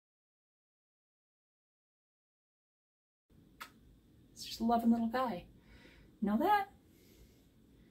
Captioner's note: kiss